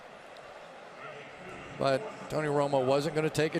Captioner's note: pa announcement